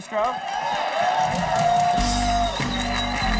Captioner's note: audience applauding; sexy music